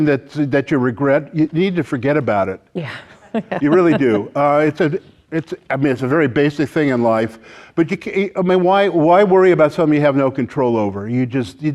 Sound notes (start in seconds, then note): 2.8 laughing